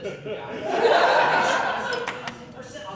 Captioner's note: laughter